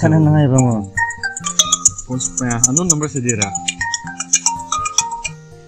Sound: phone ringing

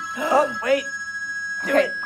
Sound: ring

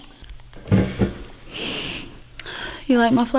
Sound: Tasha sniffs

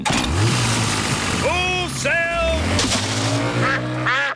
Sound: engine starts

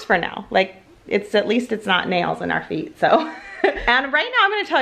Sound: laughs

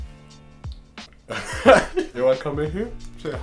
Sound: laughing

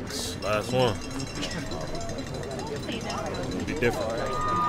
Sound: bells clanging

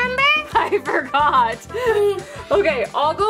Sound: laughs

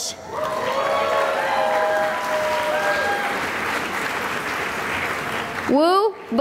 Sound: cheering and applause

